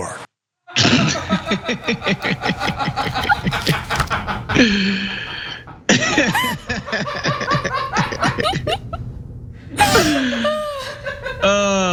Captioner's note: laugh